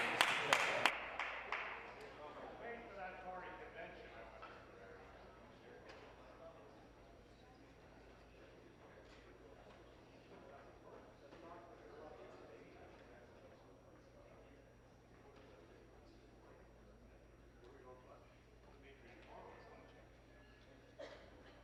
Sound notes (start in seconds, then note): 3.3 applause